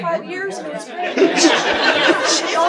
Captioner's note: audience commenting; everyone laughing